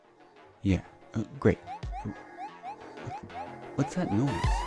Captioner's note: alarm blaring